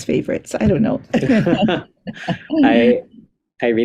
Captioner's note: laughter